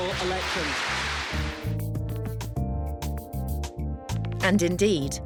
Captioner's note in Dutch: publiek applaudisseert